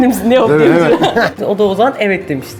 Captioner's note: laughs